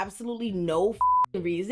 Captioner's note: beep